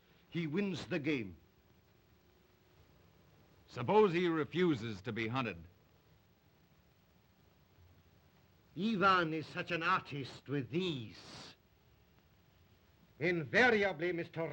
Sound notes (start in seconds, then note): none